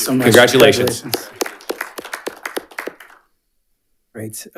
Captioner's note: attendees clapping